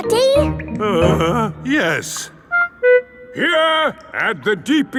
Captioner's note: groans